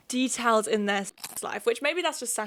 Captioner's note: food crunching